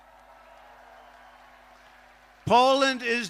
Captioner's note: applause